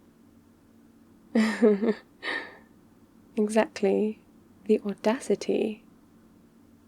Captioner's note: laughs